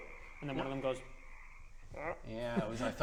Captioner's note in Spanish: ribbit